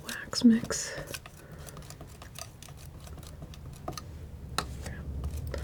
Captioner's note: scissors snipping